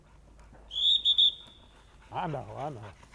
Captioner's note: whistle blows